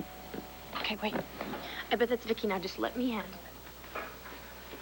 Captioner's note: doorbell rings